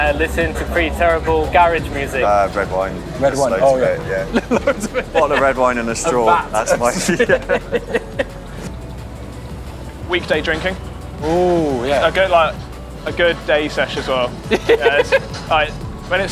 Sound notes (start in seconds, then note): 0.0 laughs; 4.9 laughs; 8.2 both laugh; 14.4 laughs